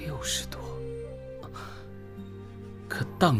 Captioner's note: Chu Yuan gasps